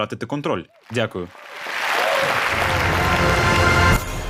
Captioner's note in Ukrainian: Оплески